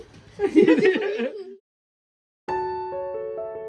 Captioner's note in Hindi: हंसी